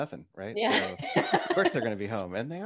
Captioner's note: laughs